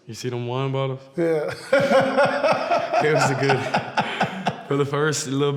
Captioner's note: laughs loudly